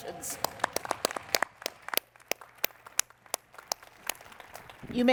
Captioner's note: applause